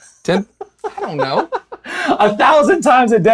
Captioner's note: laughs